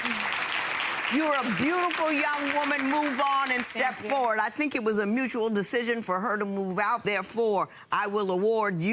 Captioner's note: audience applauds